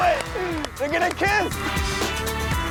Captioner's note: Matthew laughs; upbeat instrumental music